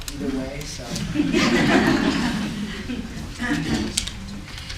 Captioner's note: folks laugh